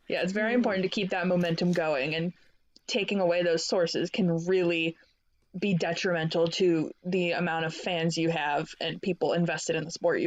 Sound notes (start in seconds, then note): none